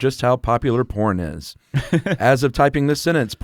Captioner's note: laughs